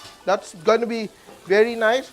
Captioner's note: sizzles